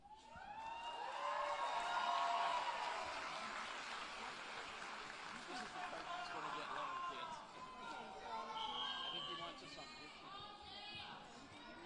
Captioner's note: applause and Cheering